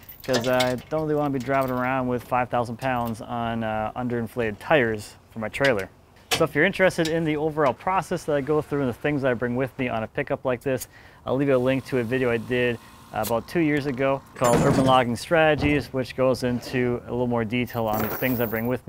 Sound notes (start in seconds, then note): 6.0 clanking; 11.4 engine whirring; 13.7 clanking; 17.9 chains rattling